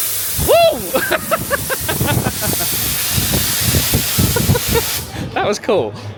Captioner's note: laughing; electronic buzzing